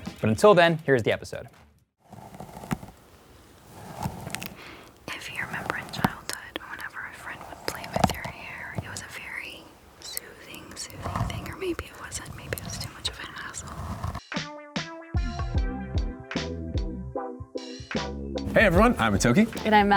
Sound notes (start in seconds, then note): 3.6 brushing; 15.2 intro music